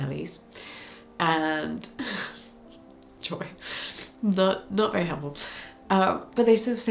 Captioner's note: chuckles